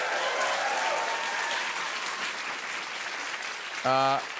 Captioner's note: cheers and applause